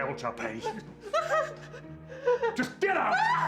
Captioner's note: crying